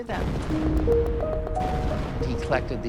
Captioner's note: guns firing